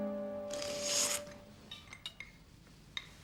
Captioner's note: slurping sound